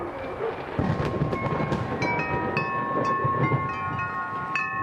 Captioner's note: thunder rumbles